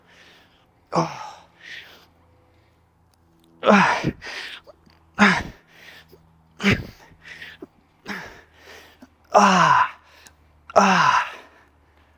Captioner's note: breathing